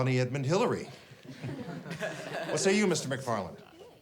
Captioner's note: class chuckles